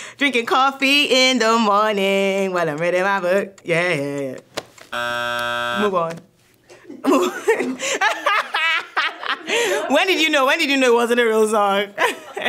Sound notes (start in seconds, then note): 4.9 buzzer sounds; 6.7 laugh; 6.7 laughs